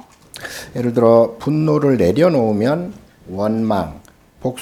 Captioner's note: speaking Korean